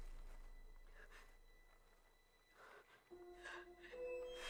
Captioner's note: Hailey pants; suspenseful music